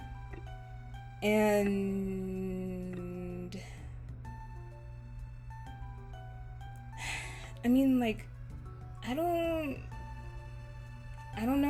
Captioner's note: sigh